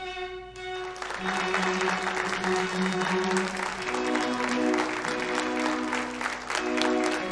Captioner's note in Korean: 박수 소리